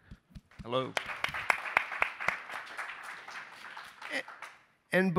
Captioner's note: attendees applaud